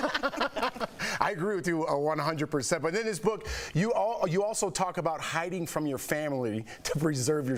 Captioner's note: laughter